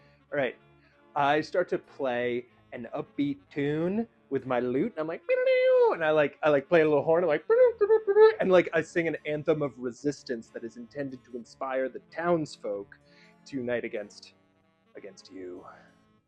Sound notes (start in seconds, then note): 5.1 makes a guitar riffing noise; 7.5 horn tooting